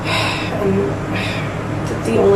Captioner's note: sighs